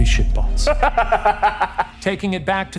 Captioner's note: laughing